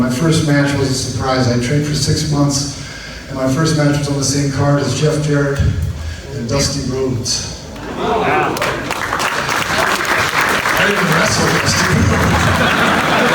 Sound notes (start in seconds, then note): 7.7 audience applauds